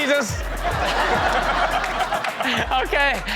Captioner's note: crowd laughs